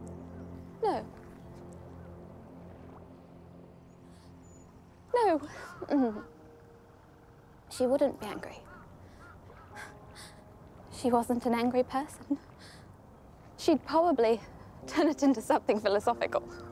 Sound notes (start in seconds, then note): 4.6 voice wavers